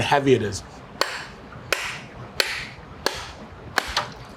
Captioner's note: coconuts thwacking